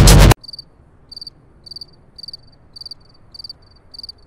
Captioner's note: crickets chirping